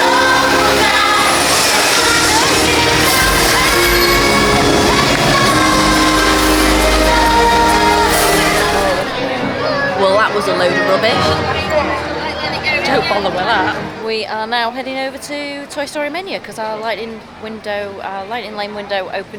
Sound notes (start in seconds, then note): 13.5 sarcarsm